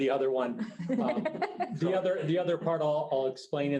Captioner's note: group laughing